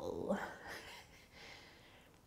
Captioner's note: laughing